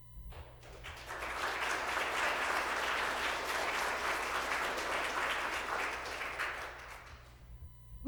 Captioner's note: applause